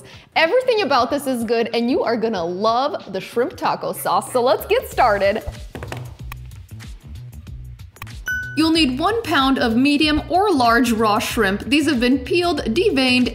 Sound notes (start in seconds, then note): 5.6 tapping; 8.2 chimes